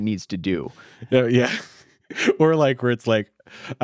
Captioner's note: laughs